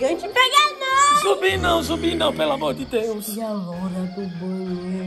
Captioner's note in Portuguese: Efeitos sonoros